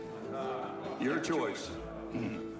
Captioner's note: clears throat